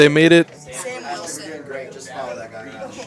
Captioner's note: indistinct chatter